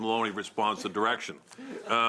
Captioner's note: laughter